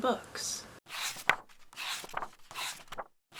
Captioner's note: pages turning